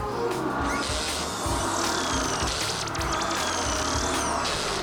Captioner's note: drill whirring